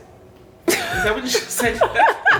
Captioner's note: laughing